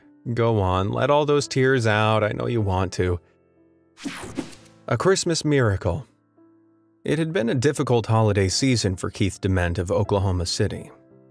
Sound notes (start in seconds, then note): 4.0 whooshing